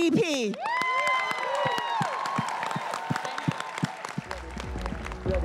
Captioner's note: everyone cheering and applauding